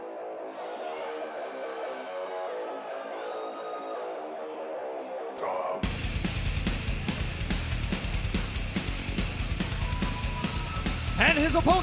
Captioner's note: crowd cheering